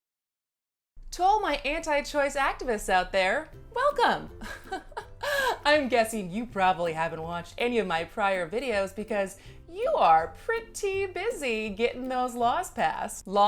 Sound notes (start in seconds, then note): 4.4 laughs